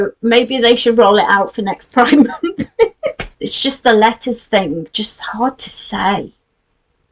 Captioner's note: laughs